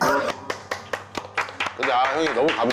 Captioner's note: applause!